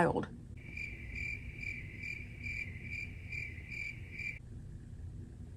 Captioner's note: cricket noises